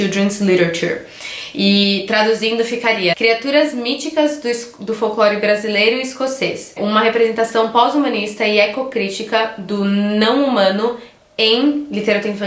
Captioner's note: translating to Portuguese